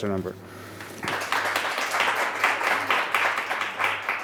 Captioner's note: applause